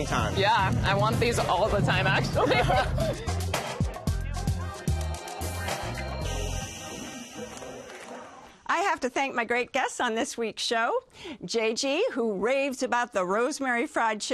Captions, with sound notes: Yeah. I want these all the time actually. [ Both laugh ] I have to thank my great guests on this week's show. JG, who raves about the rosemary fried chicken